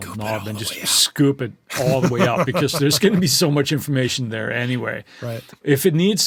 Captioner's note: laughs